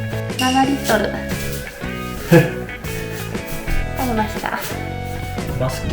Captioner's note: laughs